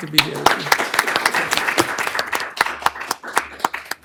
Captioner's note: applause